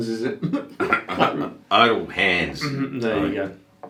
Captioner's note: laughing